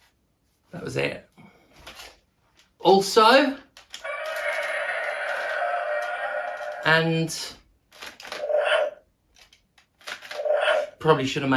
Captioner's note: roaring sound; differrent roar